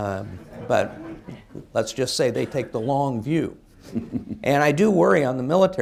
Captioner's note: laughter